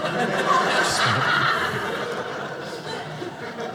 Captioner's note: audience laughing